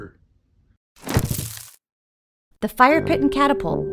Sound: leaves rustling

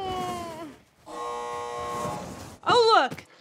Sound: machine buzzes

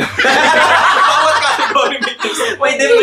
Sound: laughs

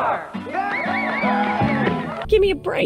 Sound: people cheering

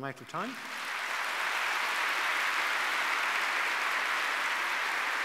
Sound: audience clapping

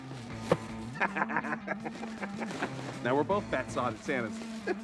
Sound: laughing

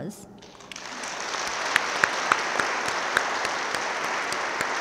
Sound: audience claps

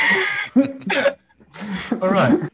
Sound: laughs

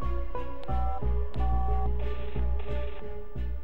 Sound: dialling

